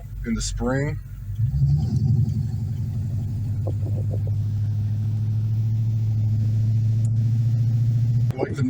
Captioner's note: exhaust rumbling